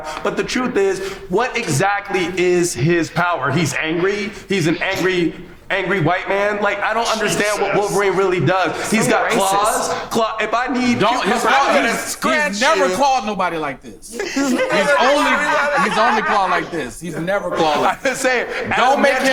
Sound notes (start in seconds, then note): 11.0 overlapping chatter; 14.0 group laughs